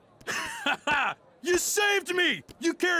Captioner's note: laughs